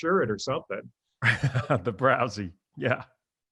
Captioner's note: laughs